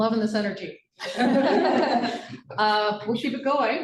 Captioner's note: laughter